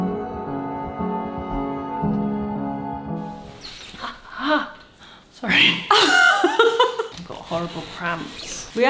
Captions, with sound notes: (groans) - It's all right. (both laughing) Horrible prompts.